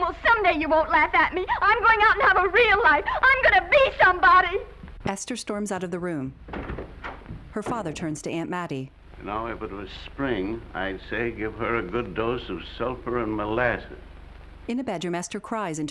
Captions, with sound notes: Well, some day you won't laugh at me. I'm going out and have a real life, I'm going to be somebody! [door slamming] You know, if it was spring, I'd say give her a good dose of sulphur and molasses.